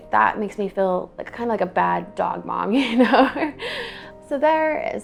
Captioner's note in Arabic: يضحك